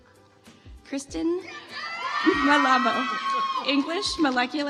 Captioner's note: audience applauds